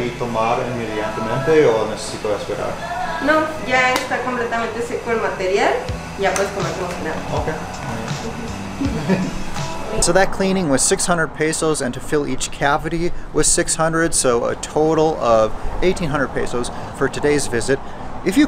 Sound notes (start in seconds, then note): 0.1 speaking in foreign language